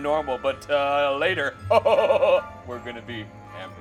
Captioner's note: laughing